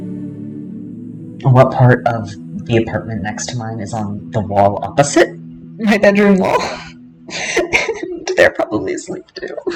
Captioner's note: laughter